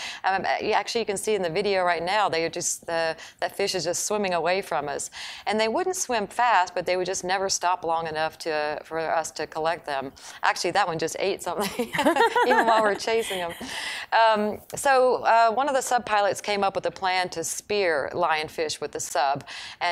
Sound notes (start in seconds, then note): 11.6 laughing